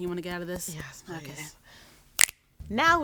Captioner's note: snapping fingers